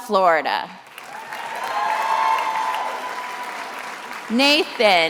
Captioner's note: attendees applauding and cheering